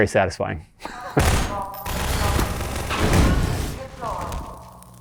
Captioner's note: automatic gunfire